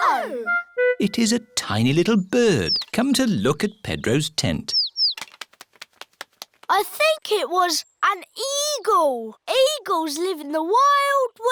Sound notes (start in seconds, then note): 4.3 tweeting